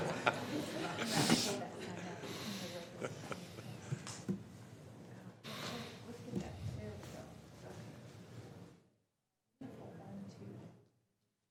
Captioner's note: laughing